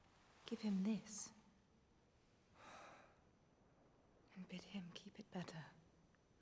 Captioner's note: sighs